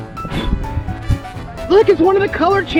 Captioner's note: blows